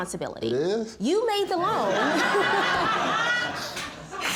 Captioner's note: audience laughing